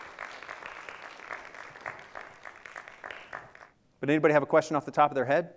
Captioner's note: audience applause